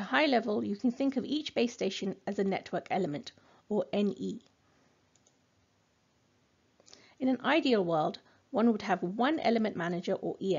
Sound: click

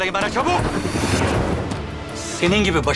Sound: transition sound

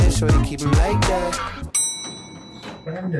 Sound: bell dinging

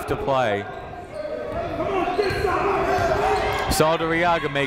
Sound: shouting

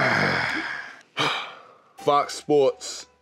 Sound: sighs

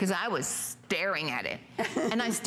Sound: laughter

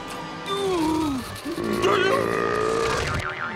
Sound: groaning; burping

